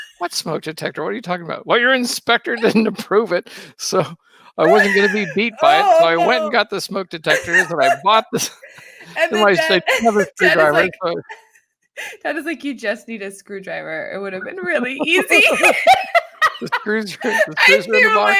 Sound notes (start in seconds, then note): 15.0 both laughing